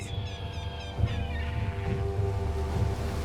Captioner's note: seagulls squawking